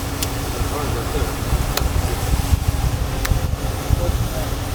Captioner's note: mud splatting